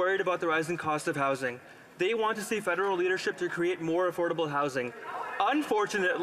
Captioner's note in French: voix de l'interprète